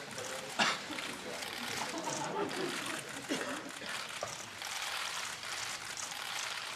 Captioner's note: applause